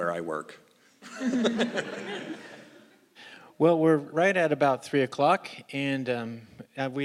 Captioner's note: laugh